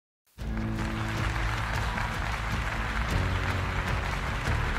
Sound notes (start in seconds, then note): 0.4 applause